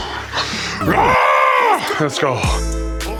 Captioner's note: playfully yells